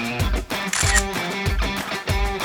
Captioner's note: camera shutter clicks